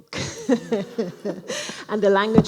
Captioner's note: laughing